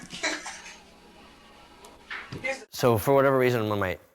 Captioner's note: kids laughing